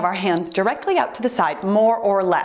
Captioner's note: timer beeps